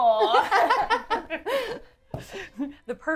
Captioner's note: laughs